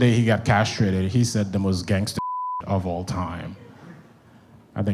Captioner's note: beep